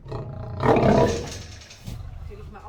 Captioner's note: loud roar